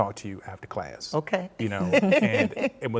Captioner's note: laughs